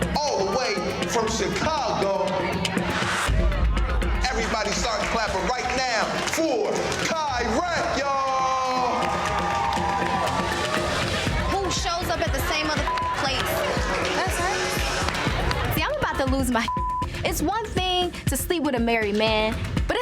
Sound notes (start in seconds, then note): 9.4 audience cheering; 12.7 beep